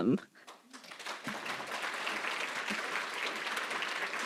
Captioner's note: applause